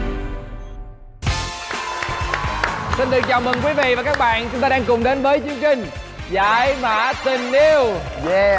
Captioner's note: applause